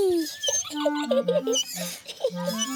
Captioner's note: giggling